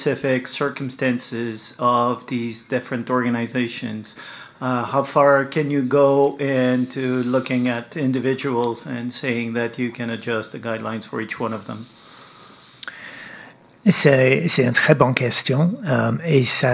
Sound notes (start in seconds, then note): 5.3 speaking French